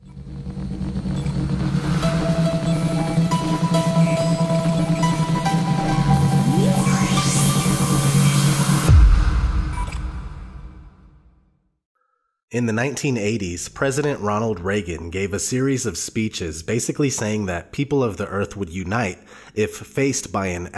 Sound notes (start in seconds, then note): 12.6 voiceover